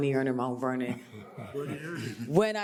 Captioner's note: audience chuckling